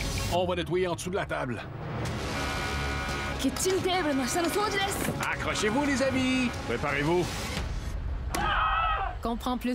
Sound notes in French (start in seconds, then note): 2.2 Hurlement d'alarme; 3.4 Parle dans une langue étrangère